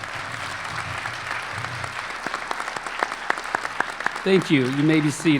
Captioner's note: applause